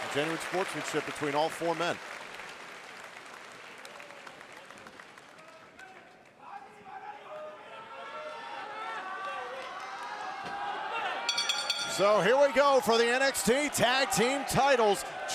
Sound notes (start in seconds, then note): 11.2 bell rings